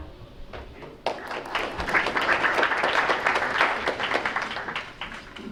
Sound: crowd applauds

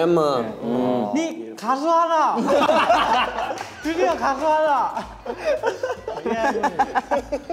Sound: speaking in Korean; all laughing

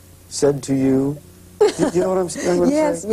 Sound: laughter

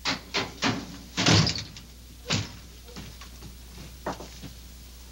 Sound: door thudding

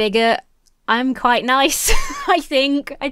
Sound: laughs

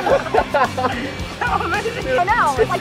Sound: laughter; laughs

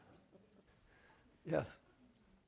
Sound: laughter

